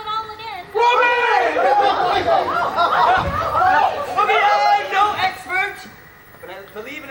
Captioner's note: cheers and excitement